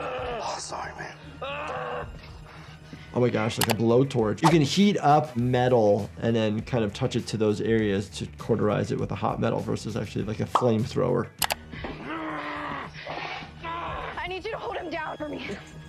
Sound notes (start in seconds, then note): 11.8 grunting